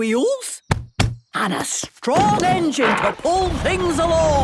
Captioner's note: thumping